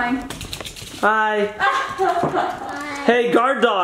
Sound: laughs

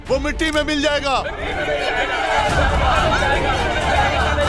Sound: indistinct chatter

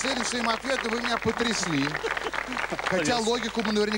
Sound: applause

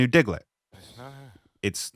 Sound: off screen whispering

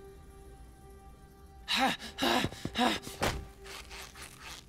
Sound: panting

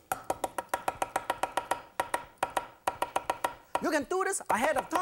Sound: chops rhythmically

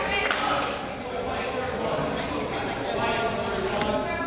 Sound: crowd applauds

